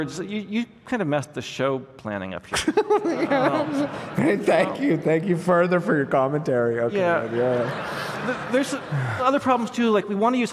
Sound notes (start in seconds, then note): 2.5 laughter